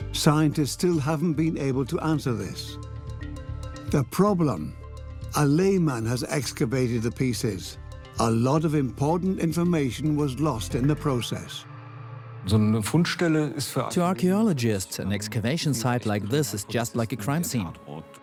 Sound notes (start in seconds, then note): 12.5 in German; 13.9 dubbed in English